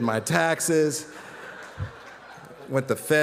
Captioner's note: audience laughing